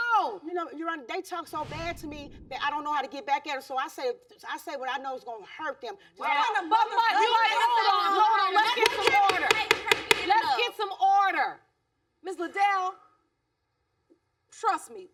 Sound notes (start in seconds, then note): 6.1 gavel pounding